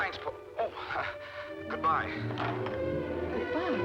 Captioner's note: on phone